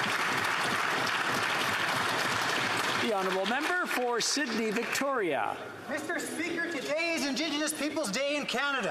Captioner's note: applause